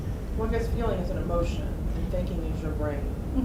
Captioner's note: voiceover